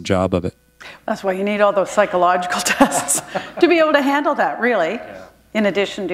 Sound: chuckle

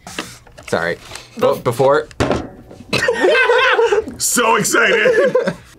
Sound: both laugh

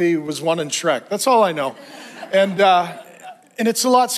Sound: congregation laughs

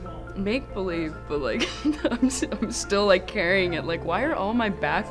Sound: laughs

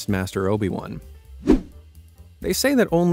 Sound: air whooshing

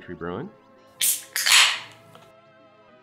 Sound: can opens

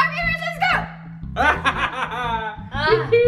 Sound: laughs

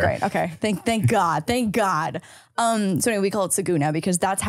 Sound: laughing

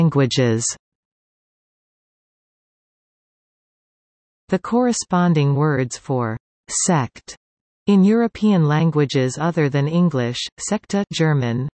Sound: German

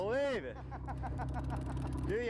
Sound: laughter

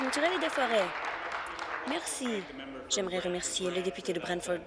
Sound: applause

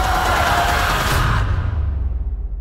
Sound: screaming

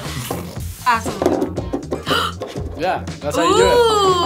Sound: gasps

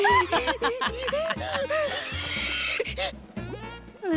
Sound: laughing

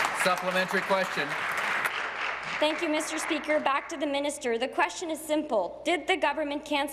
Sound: applause

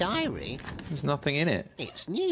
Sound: page flip

